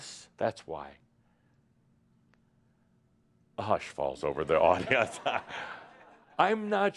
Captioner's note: slight pause; some laughter